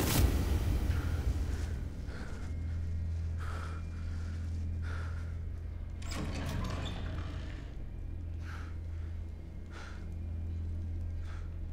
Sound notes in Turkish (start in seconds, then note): 0.8 Nefes alıp verir; 5.9 Kapı açılma sesi; 7.3 Nefes alıp verir